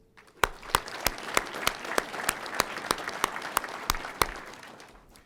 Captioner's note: audience applauding